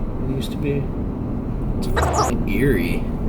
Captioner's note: beep